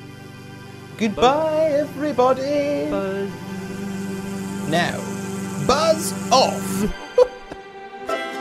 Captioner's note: laughs